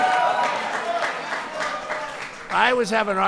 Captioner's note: applause